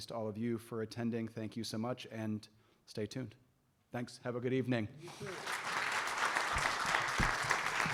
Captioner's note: applause